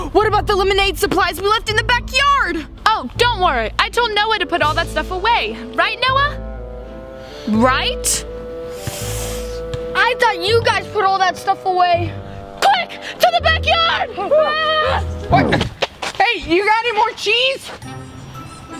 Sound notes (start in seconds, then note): 14.4 screaming; 17.6 cheerful music